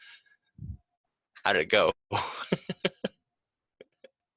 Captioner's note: laughs